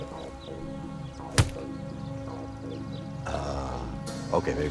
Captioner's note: tusk thumps